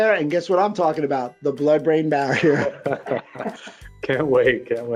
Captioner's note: laughs